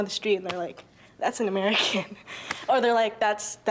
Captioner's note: laughing